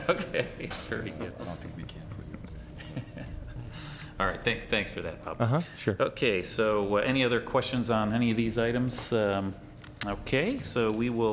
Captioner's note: laughing